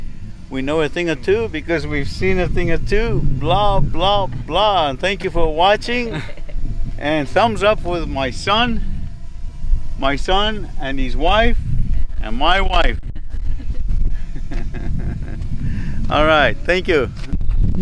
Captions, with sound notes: We know a thing or two, because we've seen a thing or two, blah, blah, blah. And thank you for watching and thumbs up with my son, my son, and his wife and my wife. (laughs) All right, thank you.